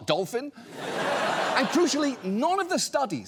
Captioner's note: audience laughs